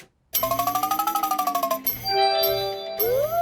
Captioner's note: beeps and chimes